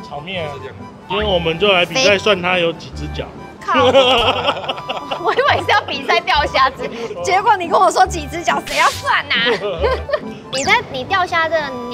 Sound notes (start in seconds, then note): 2.8 French